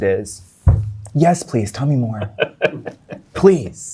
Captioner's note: guy laughing